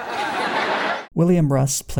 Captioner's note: audience laughter